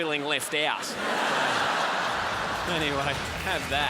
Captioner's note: crowd laughs